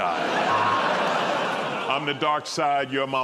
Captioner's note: laughter